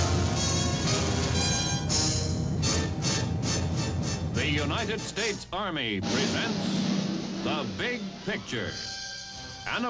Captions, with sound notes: (dramatic music) - [Male Voice] The United States Army presents The Big Picture,